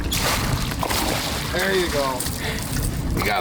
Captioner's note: fish splashing